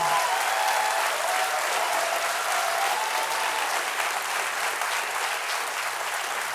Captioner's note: applause